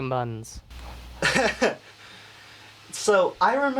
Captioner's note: laughing